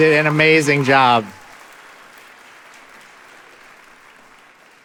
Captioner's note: audience applauding